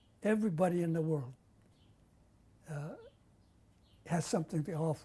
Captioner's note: pauses for 3 seconds